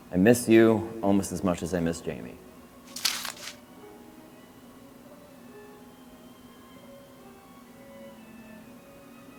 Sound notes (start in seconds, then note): 2.8 paper rustles